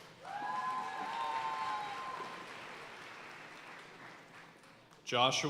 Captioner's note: audience cheering and applauding